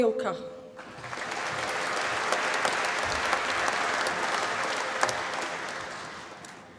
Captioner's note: applause